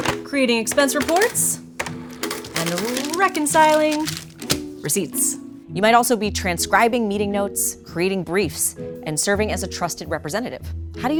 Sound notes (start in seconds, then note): 0.0 pen tapping; 0.0 calculator clacking; 2.1 calculator whirring